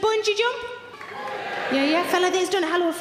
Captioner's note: audience members cheering